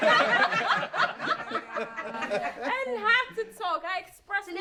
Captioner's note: laughter